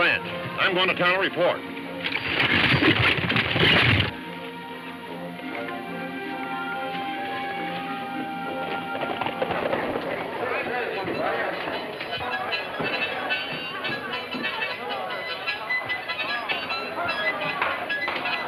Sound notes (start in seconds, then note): 3.9 horses galloping; 6.8 wistful music playing; 10.2 horses galloping; 14.3 harmonica playing